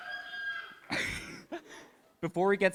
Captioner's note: laughing